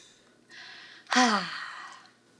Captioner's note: sighs